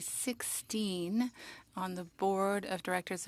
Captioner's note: speaking French